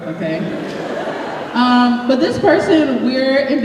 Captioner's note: laughter